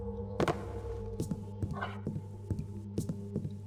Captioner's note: loud tapping on wood